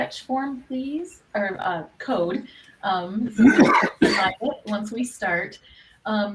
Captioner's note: coughs